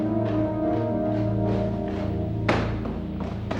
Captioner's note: footsteps